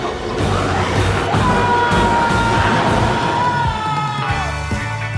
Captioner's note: biker screams; energetic guitar music